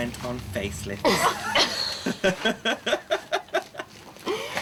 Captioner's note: all laugh